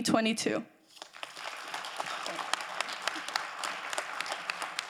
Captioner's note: crowd applauding